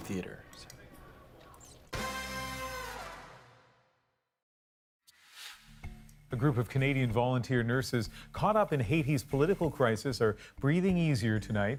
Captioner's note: whispers